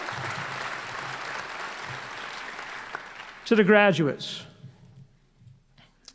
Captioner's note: applause